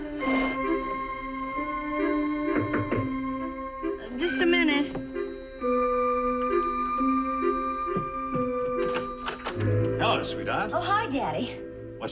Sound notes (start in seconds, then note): 2.3 knock on door